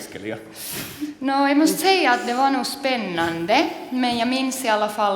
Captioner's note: speaks Swedish